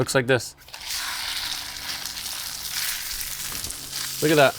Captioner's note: sizzling